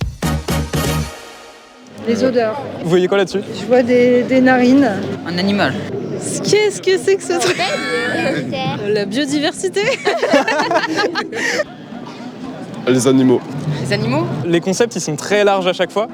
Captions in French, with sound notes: Les odeurs. Vous voyez quoi ? Je vois des narines. Un animal. Qu'est ce que c'est que ce truc ? La biodiversité ? [rire intense] Les animaux. Les animaux. Les concepts, ils sont très larges.